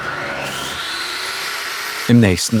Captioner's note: whirring